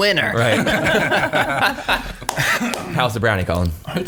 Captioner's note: laughing